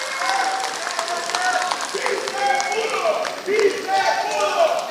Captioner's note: applause